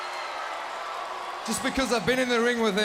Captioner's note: crowd cheering